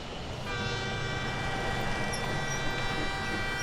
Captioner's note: train wheels squeaking; train whistles